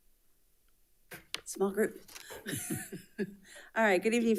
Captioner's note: laughs